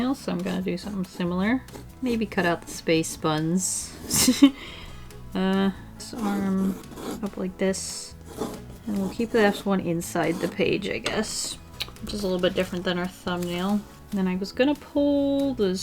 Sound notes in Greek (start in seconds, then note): 4.1 Γέλια